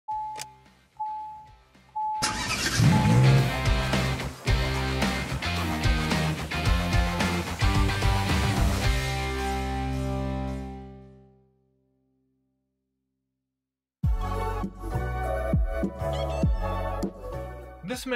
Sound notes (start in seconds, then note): 0.1 vehicle dings; 2.2 engine starts; 4.2 rock music; 14.0 mellow music